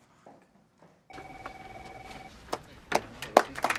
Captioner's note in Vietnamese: điện thoại reo